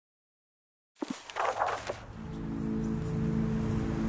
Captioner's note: book opening and pages flipping